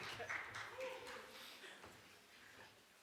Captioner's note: small group applauds